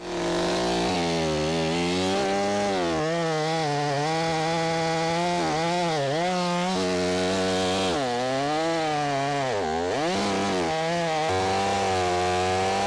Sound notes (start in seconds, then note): 0.0 chainsaw whirring